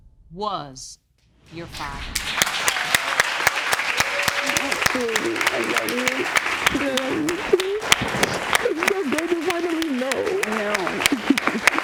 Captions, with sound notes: Was your father. (APPLAUSE) (SOBBING) I'm so glad you finally know. I know.